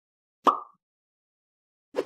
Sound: pop; woosh

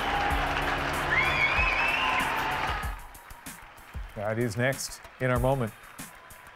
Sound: cheers and Applause

